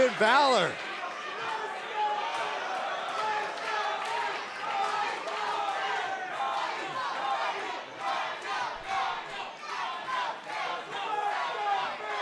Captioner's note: crowd cheering